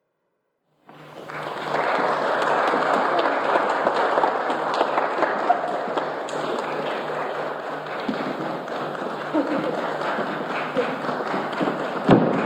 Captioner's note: audience clapping